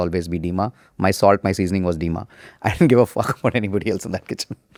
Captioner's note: laughs